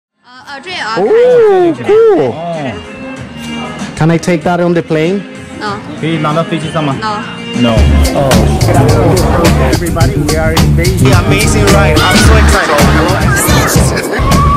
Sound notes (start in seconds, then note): 0.6 woman speaking Chinese; 6.4 speaks in Chinese; 9.2 upbeat music plays